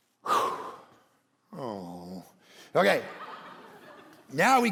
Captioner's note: congregation laughing